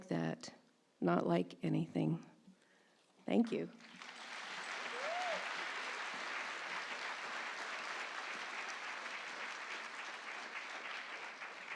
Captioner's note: applause